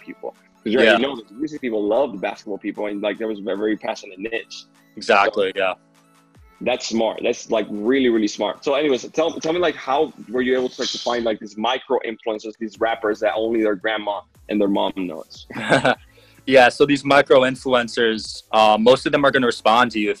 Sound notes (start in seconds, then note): 15.5 laughter